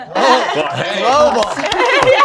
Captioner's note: applause